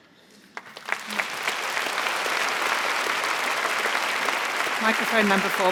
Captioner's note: applause